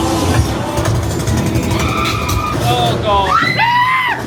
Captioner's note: spooky music; gun firing; guest screaming; everybody screaming